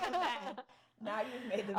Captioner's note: laughing